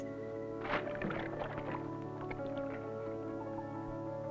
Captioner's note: water splashing